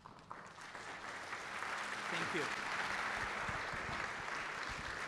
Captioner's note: applause